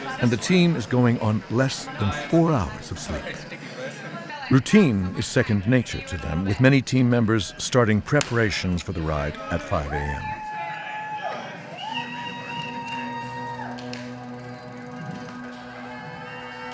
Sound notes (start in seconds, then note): 9.7 cheering; 13.5 slow dramatic music